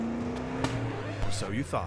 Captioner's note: engine sputtering; record skipping